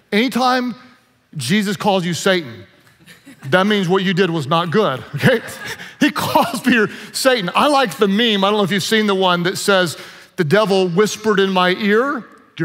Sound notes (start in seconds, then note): 5.2 audience laughs